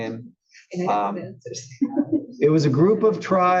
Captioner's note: laugh